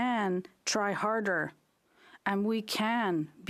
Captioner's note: speaking French